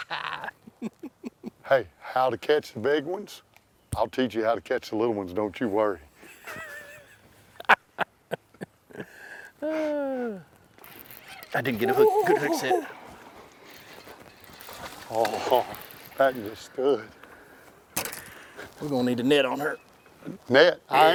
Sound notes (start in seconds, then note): 6.3 laughs; 9.6 guy wails; 13.6 water splashes